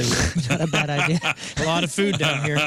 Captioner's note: laughing